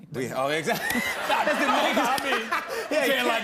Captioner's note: laughter